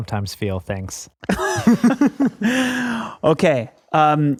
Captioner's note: all chuckle